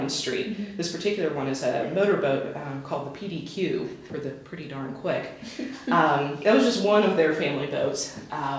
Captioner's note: chuckles